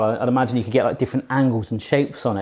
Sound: none

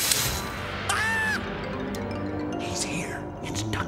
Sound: screams

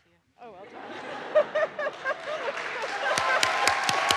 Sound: laughs; audience laughs; audience applauds; audience cheers

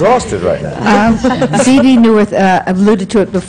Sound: laughter

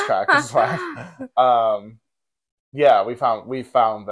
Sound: laugh

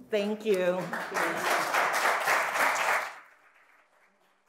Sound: audience applauds

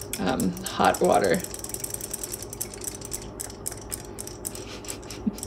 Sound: toys clicking; laughs

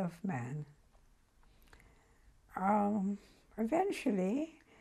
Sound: pauses for 3 seconds

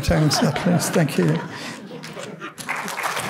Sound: laughter; applause

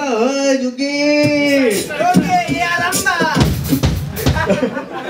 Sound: crowd shouting

